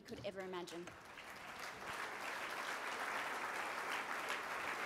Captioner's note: applause